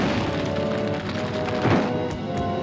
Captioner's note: rock clatters